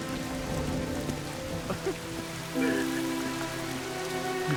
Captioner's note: sobbing